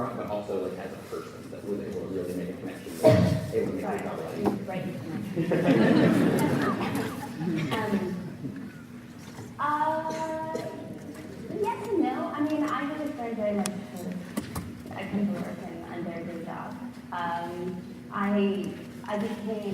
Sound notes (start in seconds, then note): 3.0 Christina coughs; 5.3 audience laughs